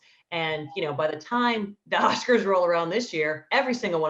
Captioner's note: chuckling